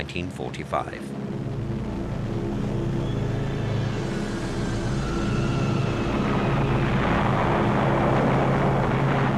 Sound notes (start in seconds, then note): 1.0 dramatic music; 1.8 bombs whistling